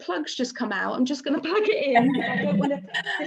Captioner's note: laughs